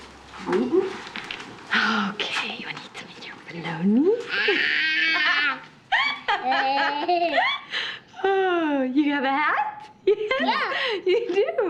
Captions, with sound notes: Mmm-hmm. Okay... I need something here with a... (MOLLY EXCLAIMING) (ERICA LAUGHING) Oh... You hear that? (GIGGLING) You do? Yeah.